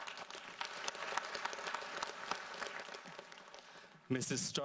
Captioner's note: audience applauds